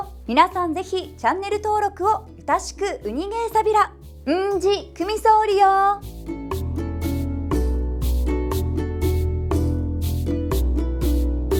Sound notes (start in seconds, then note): 3.9 in Okinawan